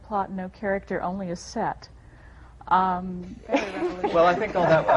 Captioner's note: laughter